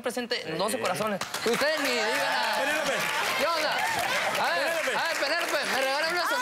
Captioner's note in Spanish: Aplausos; Exclamaciones